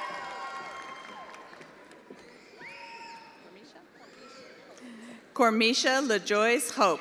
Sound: attendees applauding

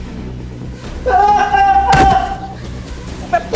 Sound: shouting

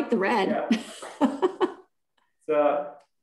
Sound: chuckles

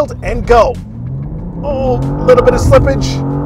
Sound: car engine revving

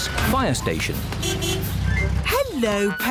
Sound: horn honks

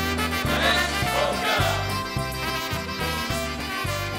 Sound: upbeat polka music; voiceover; upbeat polka music

